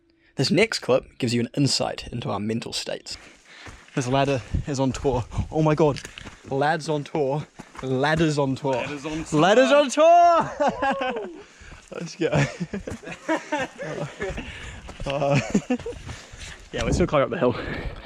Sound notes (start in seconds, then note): 10.3 laughter; 11.8 excruciatingly awkward Laughter